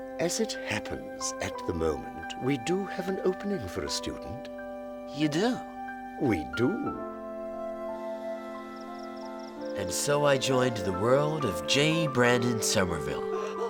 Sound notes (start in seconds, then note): 7.1 peaceful instrumental music; 7.9 crickets chirping